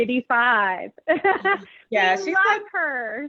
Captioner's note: chuckles